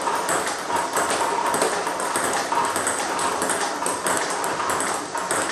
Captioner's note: ball ping pong hitting continues